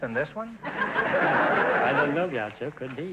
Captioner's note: audience laughter